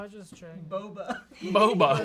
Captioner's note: laughs